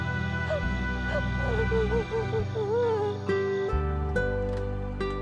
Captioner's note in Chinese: 哭聲